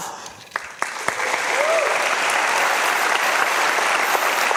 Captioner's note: audience applauding